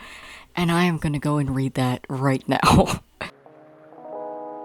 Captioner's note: laughing